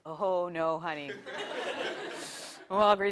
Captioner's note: laugh